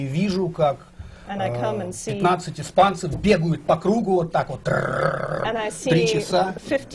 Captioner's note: foreign language not transcribed